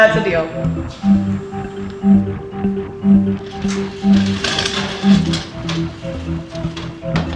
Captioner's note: light tense music; gate clacking